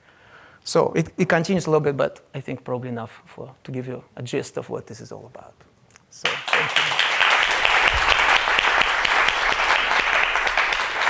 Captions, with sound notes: So it continues a little bit, but I think probably enough to give you a gist of what this is all about, so thank you. (audience applauds)